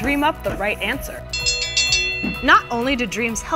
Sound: winning bell

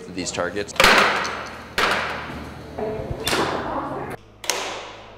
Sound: launchers flinging

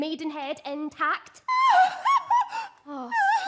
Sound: song sobs dramatically

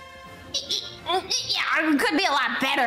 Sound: disagreeing lemon noise

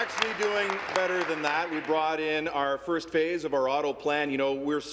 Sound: some Applause

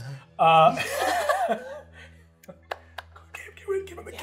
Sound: chuckles

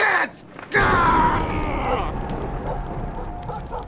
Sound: thunder and sparks and fire

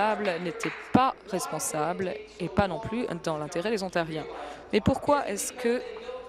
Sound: applause

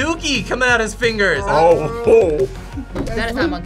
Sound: laughs

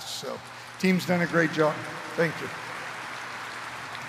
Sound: applause

